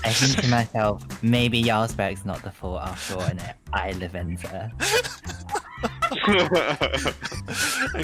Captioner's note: laughter